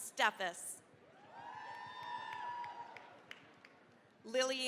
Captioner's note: cheering, applause